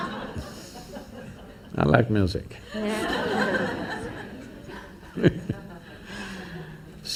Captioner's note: laughter; laughter